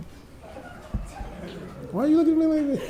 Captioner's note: audience chuckling